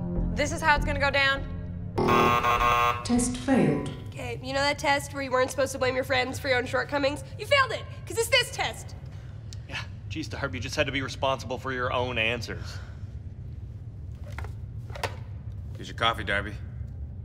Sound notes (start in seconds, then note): 2.0 negative beep